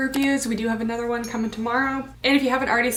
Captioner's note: bell dinging